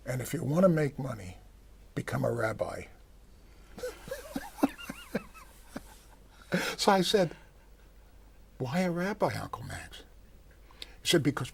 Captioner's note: laughter